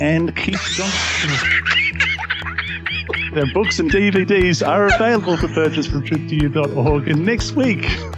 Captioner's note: laughing